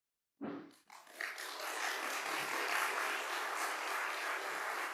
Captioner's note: applause